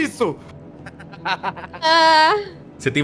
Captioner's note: laughter